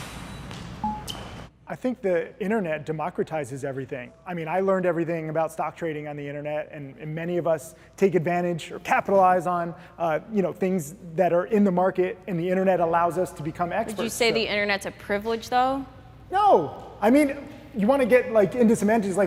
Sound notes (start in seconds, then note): 0.9 graphic dings